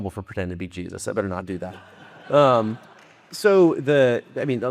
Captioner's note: audience laughing